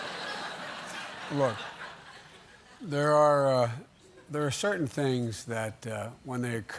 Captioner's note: laughter